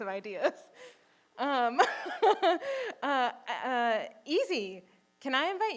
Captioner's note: chuckles